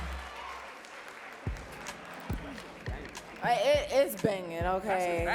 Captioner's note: audience claps